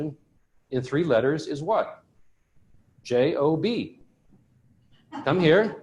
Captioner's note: laughter